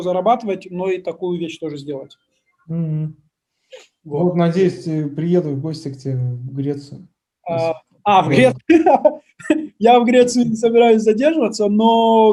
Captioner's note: laughs